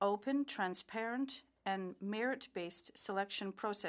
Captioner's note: speaking French